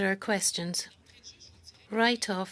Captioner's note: speaking French